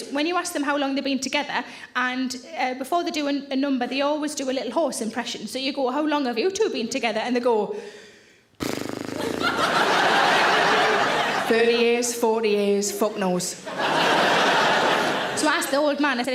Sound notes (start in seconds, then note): 8.6 exhaling and sputtering; 9.1 audience laughing; 13.6 audience laughing